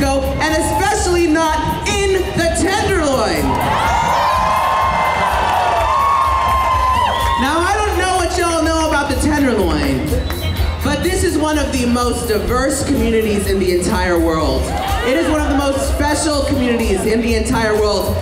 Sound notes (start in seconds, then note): 2.9 cheers